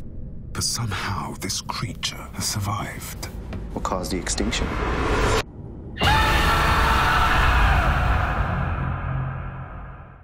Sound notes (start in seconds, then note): 5.9 distorted screaming